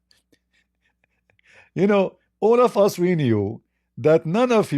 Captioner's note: Ketawa